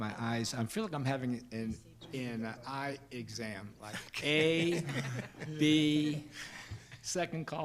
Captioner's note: board members laughing